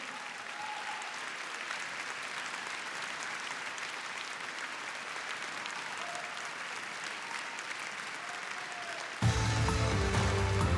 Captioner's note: applause